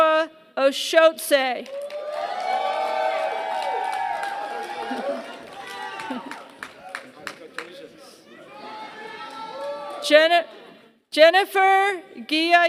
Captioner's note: applause